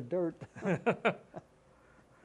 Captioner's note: laughter